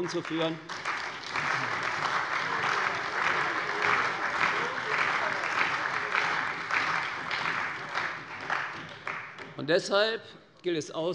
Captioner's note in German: Beifall bei der SPD, der CDU, dem BÜNDNIS 90/DIE GRÜNEN und der FDP